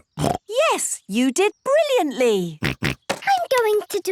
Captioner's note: snorts